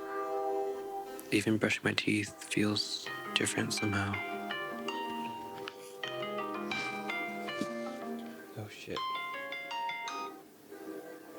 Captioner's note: thursday Meeting Alarm Rings